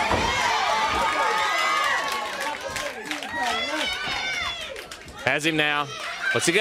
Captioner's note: crowd cheering